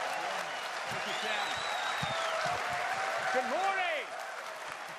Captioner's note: applause